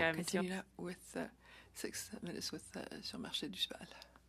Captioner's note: speaking French